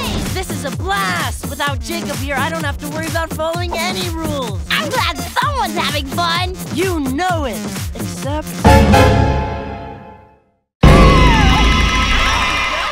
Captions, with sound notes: This is a blast! Without Jacob here, I don't have to worry about following any rules. I'm glad someone's having fun. You know it. Except... [screaming] [all bickering]